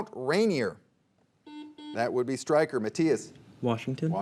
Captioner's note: buzzer beeping